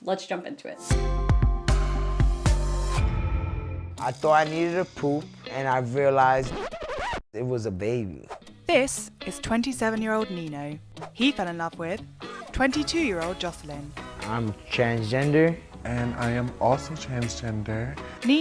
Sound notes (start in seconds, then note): 2.6 upbeat music; 6.4 record scratch